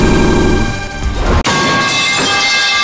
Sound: metal Pipe crash

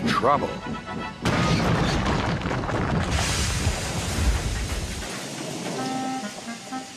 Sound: crash

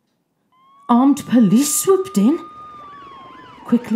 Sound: sirens. helicopter overhead

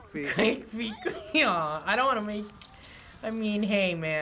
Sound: laughs

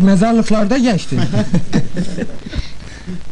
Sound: laughing

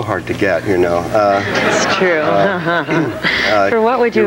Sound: audience laughs

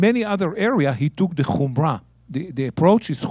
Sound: speaking in Hebrew

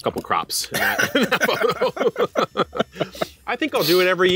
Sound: both laughing

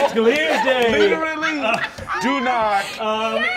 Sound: cackling

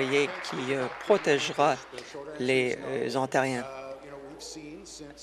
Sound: applause

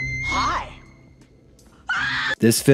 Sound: more screaming

